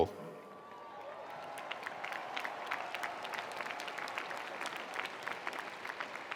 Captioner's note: attendees cheering; attendees applauding